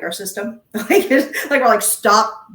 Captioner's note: laughing